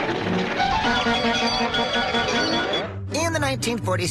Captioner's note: robot honking